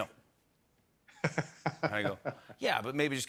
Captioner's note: laughs